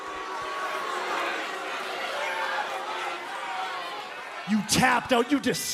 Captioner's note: crowd cheering